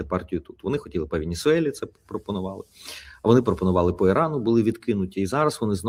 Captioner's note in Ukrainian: сопіння